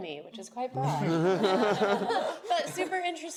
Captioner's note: group laughs